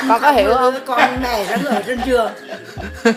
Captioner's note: grandpa laughs